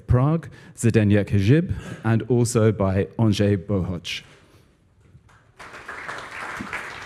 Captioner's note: applause